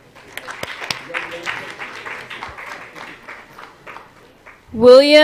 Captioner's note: applause